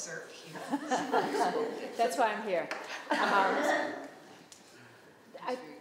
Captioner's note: crowd comment